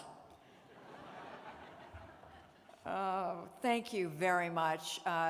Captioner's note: laughter